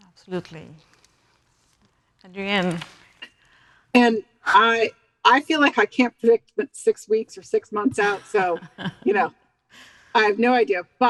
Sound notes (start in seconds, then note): 7.8 laughing